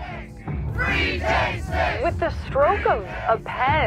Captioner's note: chanting